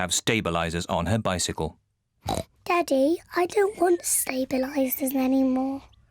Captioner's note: snorts